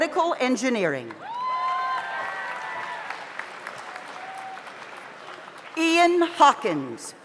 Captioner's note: audience applauds; audience cheers